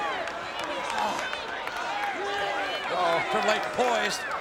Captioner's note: crowd chattering